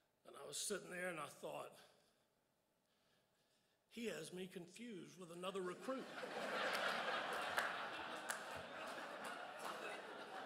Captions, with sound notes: And I was sitting there, and I thought. He has me confused with another recruit. (crowd laughs)